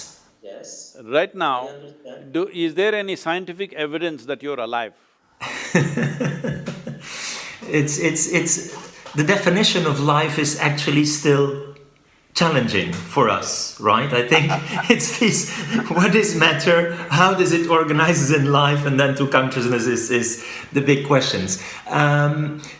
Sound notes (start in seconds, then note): 14.2 Sadhguru laughs